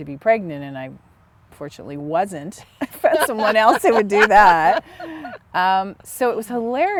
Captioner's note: laughter